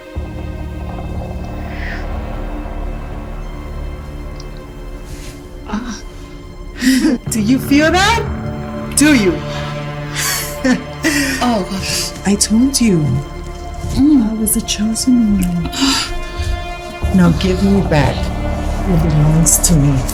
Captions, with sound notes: (suspenseful music) (woman groans) (Amanda laughs) - Do you feel that? Do you? - Oh god. - I told you. I was the chosen one. Now give me back what belongs to me.